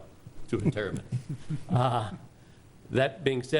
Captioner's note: people chuckling